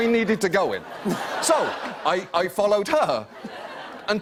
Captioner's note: laughter